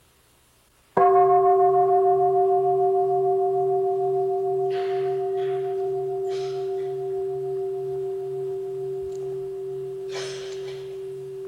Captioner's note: bell